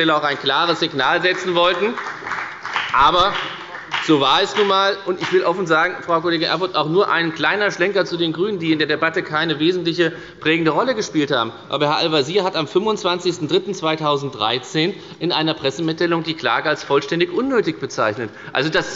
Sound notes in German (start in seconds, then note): 5.7 Beifall bei der FDP